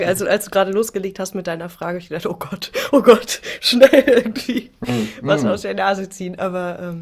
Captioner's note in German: gelächter